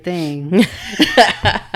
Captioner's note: laughing